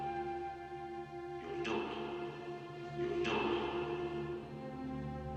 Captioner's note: echoing